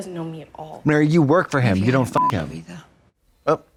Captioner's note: beep